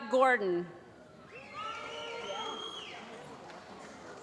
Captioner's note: applause